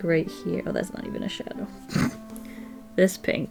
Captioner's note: snorts